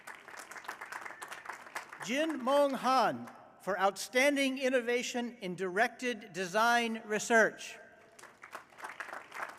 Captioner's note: applause